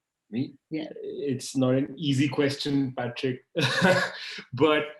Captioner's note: laughs